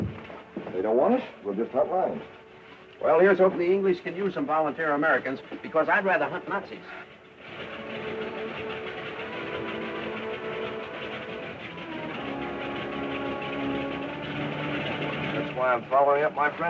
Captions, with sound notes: They don't want it, we'll just cut line. - Well here's hopin' the English can use some volunteer Americans because I'd rather hunt Nazis. (engines clattering) - That's why I'm following up my friend's story.